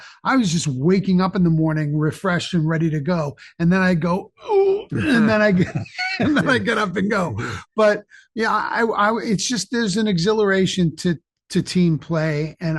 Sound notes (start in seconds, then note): 4.8 grunts; 5.0 both chuckling